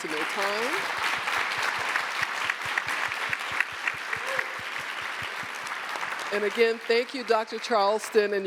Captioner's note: applause